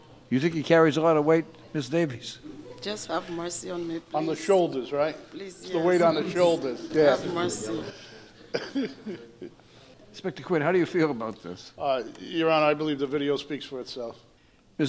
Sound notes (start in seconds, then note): 8.7 gallery laughing